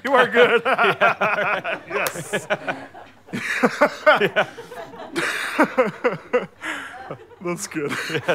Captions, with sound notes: You are good! [awkward laughing continues] Yes. [awkward laughing petering out] That's good.